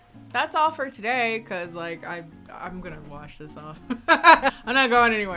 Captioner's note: laughs